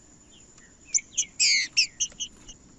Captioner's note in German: trinca ferro cantando